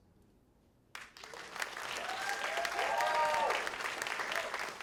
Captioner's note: cheers and applause